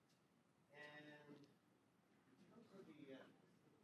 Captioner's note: faintly speaking